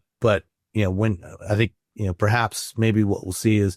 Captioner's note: none